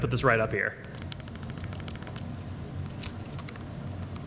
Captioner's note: clicking